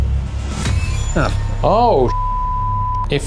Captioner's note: beep